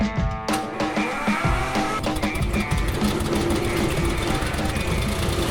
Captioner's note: engine whirring